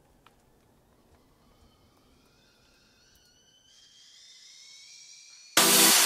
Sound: high pitched noise; music blast

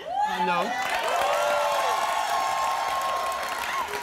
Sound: cheers

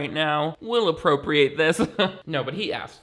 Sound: chuckles

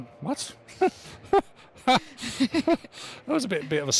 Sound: chuckles

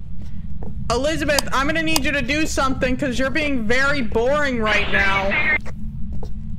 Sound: over Radio

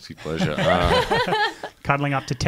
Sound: laughing

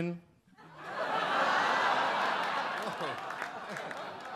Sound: audience laugh

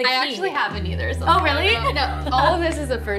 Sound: laughs

